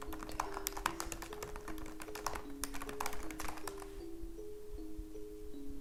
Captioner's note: keyboard clacks; Leona whispers